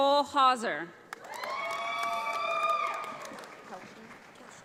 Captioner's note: audience applauds